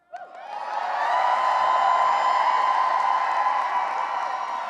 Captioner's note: cheering and applause